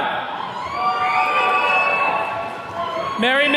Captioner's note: attendees cheering